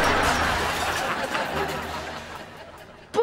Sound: laughing

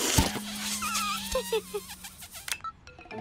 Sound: giggles

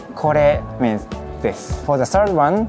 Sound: speaking in Japanese

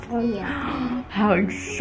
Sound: gasping

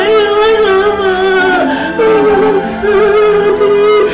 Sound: Emman wailing

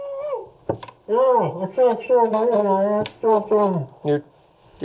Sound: snorkel distorts speaking

